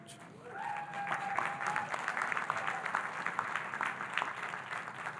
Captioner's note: audience cheering and applauding